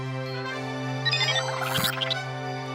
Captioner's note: beeping